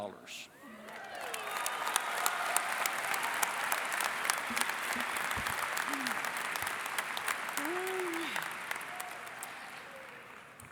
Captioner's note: cheering and Applause